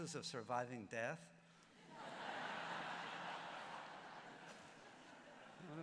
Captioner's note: laughter